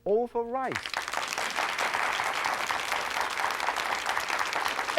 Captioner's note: audience claps